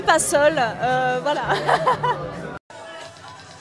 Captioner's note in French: rires